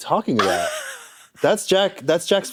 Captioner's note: snickers